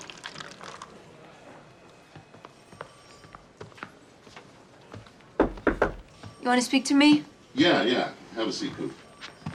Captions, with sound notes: (phone ringing) (people chattering) (knocking on door) - You want to speak to me? - Yeah, yeah. Have a seat, Coop.